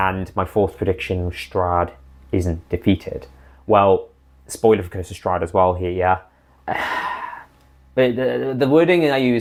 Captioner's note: sigh